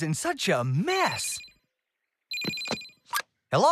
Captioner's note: phone Rings